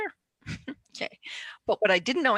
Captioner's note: chuckles